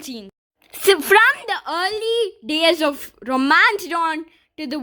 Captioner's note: voiceover